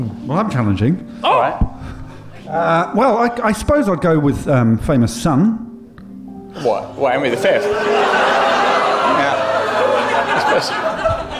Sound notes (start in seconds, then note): 6.4 gasps; 7.3 audience oohs